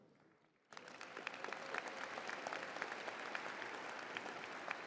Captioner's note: crowd applauding